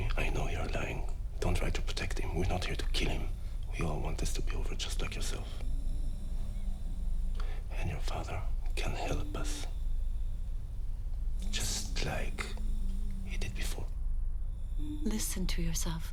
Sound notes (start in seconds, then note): none